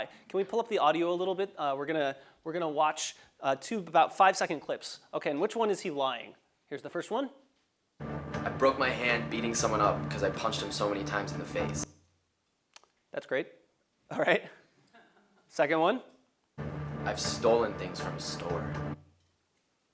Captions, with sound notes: Can we pull up the audio a little bit? We're gonna watch two of about five seconds clips. Okay, in which one is he lying? Here's the first one. I broke my hand beating someone up, cuz I punched him so many times in the face. >> That's great. All right. >> [LAUGH] >> Second one. >> I've stolen things from the store.